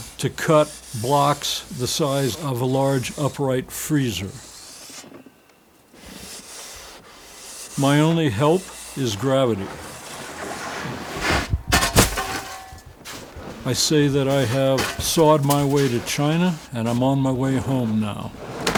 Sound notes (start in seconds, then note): 5.8 saw swishing; 11.8 shovel clinks; 11.9 snow thuds